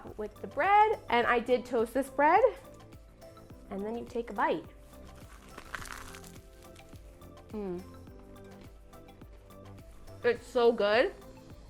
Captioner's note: chewing